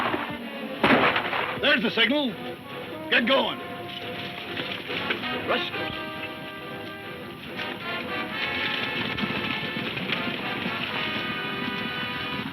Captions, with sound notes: - There's the signal. Get going? - Rustlers. (dramatic music) (hooves thudding)